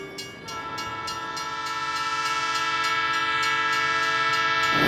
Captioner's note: train whistle blaring